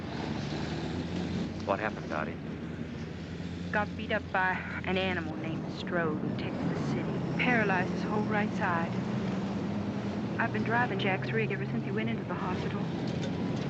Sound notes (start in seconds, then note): none